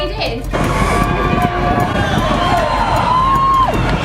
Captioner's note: cheering